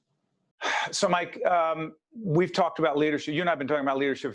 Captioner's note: sigh